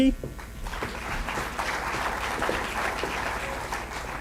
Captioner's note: applause